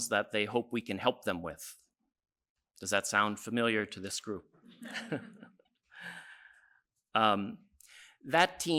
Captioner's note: laughs